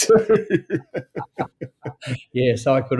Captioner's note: both laughing